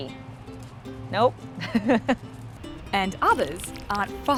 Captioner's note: laughs